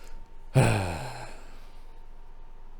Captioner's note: heavy sigh